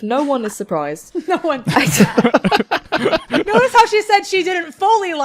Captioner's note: laughter